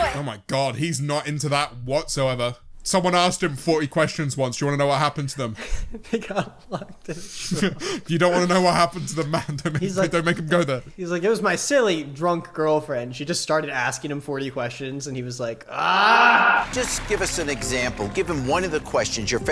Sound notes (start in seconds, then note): 5.6 laughs